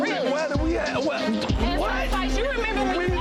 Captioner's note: stammers